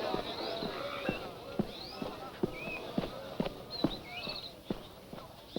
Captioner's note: approaching footsteps